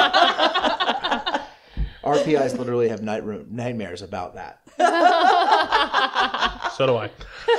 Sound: laughter; laughter

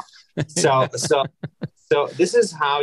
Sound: laughs

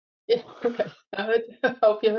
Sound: laughs

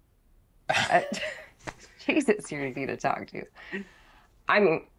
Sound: laughs

